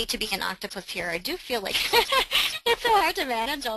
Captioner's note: laughing